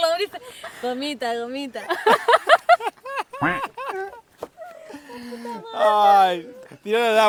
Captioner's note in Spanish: Risas